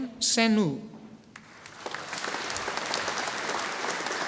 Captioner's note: audience applauding